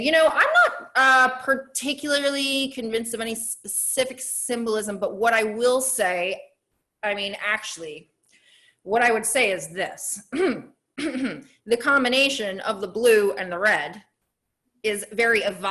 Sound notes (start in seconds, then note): 11.0 clears throat